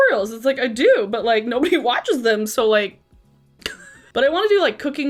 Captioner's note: laughs